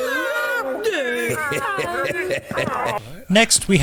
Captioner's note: chuckles